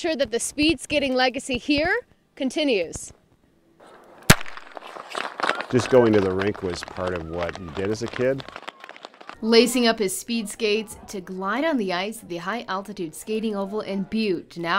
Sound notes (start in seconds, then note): 4.2 nat sound of gun